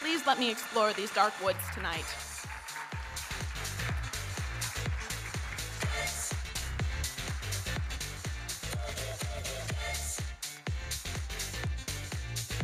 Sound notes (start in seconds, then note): 3.6 audience applauding; 3.6 electronic dance music